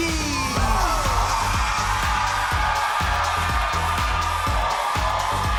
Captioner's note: audience cheers; upbeat music